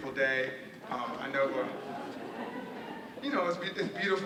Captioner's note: audience murmuring